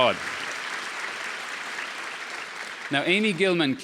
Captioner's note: audience applause